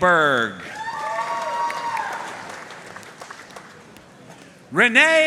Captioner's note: audience cheering and applauding